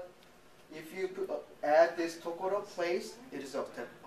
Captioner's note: speaking japanese